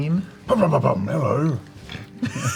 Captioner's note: posh voice; all laugh